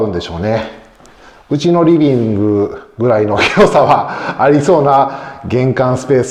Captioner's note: laughs